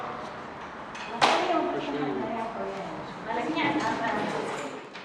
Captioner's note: people chattering